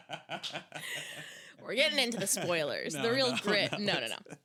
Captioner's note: laughing